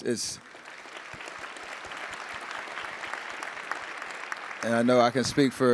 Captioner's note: attendees applauding